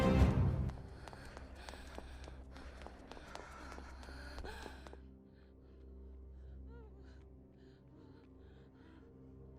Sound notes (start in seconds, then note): 0.6 footsteps clicking; 0.8 Julie breathes heavily